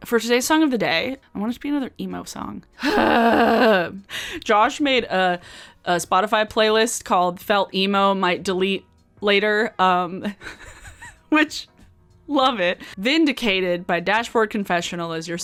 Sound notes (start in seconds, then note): 3.0 grunts; 10.4 laughs